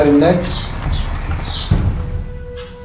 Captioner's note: sounds of a burning building